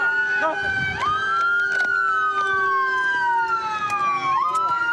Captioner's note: sirens